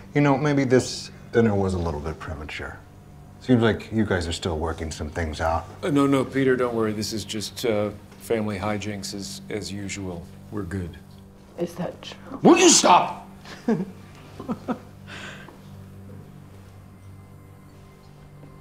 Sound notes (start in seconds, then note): 14.2 woman laughing